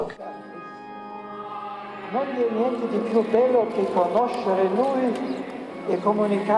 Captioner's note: man speaking in foreign language